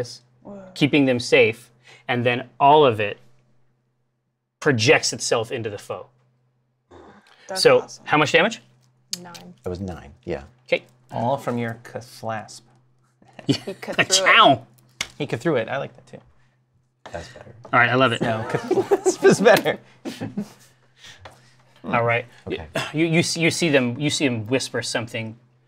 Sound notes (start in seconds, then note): 18.2 laughter